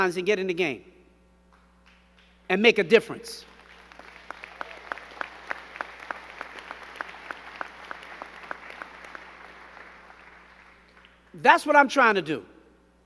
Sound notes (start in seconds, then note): 3.4 crowd clapping